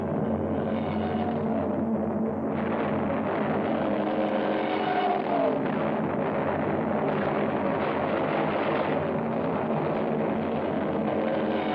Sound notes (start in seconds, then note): 0.1 plane droning; 5.1 explosion; 7.6 gunshots